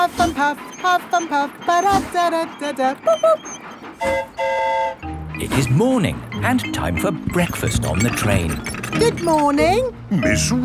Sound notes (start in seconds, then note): 4.0 train whistle toots; 4.0 mimics train whistle